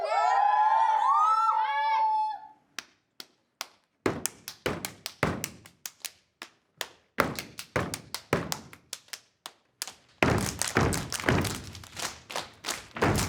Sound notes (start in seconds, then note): 0.0 students cheer; 2.5 hand slaps; 3.9 clapping and stomping; 9.8 clapping and stomping